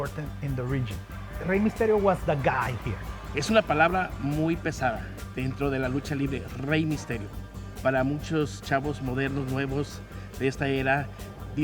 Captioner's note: speaking Spanish